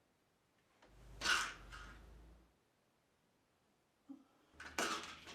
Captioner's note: pills rattling